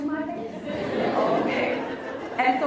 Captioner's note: laughs